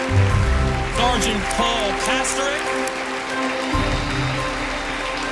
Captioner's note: applause